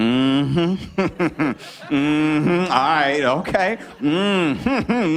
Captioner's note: chuckles